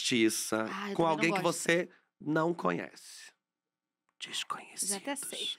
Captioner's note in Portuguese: sussurra